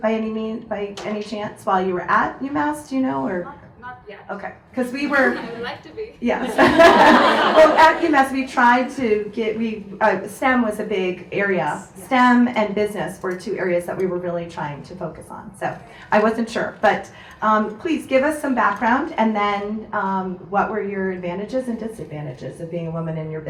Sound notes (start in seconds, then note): 6.4 audience laughs